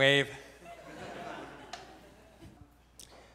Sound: audience chuckles

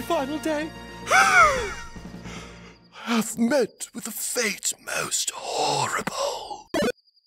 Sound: heaving

